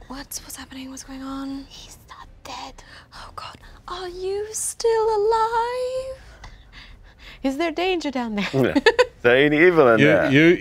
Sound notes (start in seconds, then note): 8.4 laughs